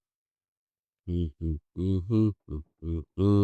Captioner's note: humming